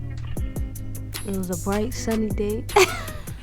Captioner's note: laughs